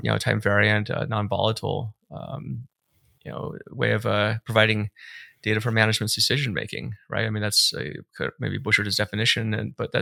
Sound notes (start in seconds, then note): none